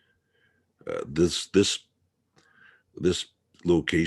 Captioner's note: none